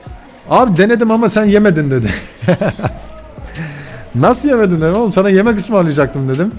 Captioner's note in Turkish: kahkaha